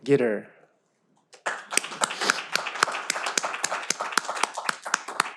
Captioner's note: all applaud